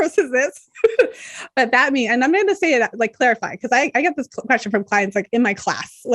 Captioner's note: chuckles